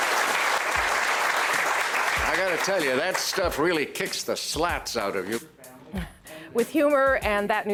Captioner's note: applause